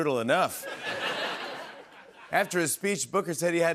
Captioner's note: laughter